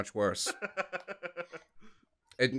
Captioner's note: laughter